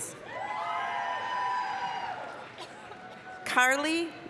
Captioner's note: applause, cheering